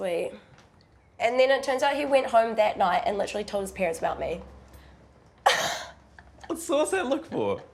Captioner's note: chuckles; laughs